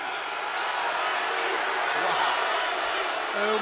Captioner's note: crowd boos